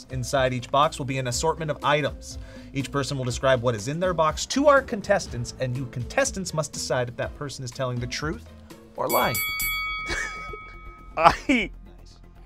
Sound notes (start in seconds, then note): 9.0 bell rings; 11.2 laughs